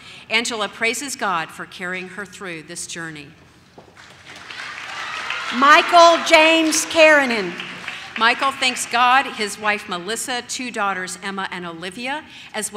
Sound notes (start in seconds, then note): 4.3 audience cheers